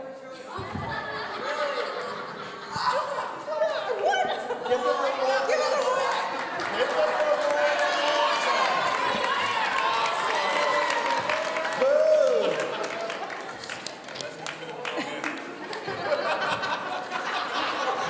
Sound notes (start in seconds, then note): 0.6 audience laughing; 4.8 shouts and cheers from the audience; 14.8 laughing